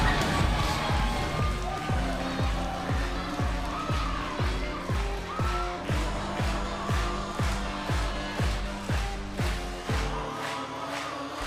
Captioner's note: crowd cheering